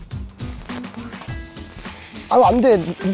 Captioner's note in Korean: 치이이이익